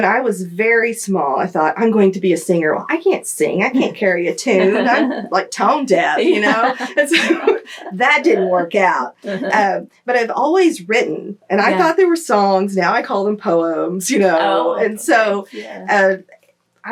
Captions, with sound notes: When I was very small, I thought, “I’m going to be a singer.” I can’t sing. I can’t carry a tune. I’m tone deaf. (Laughter) That didn’t work out. I’ve always written, and I thought they were songs. Now I call them poems.